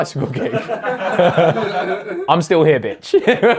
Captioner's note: audience laughs; laughs